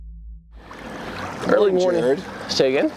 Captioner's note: water sloshing